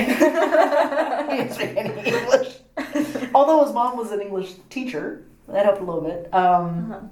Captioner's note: laughing; all laugh